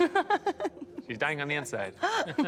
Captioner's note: laughs; chuckles